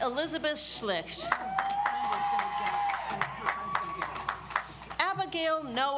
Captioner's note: audience applauds